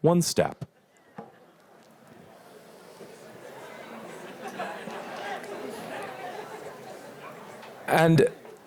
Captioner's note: laughter